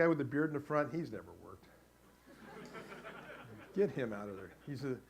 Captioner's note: audience laughs